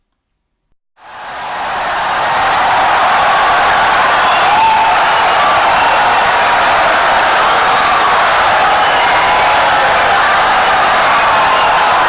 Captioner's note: wild applause and cheering for 17 seconds